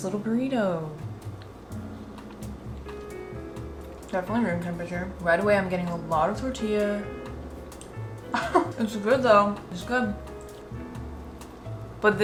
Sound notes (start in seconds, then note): 8.3 laughs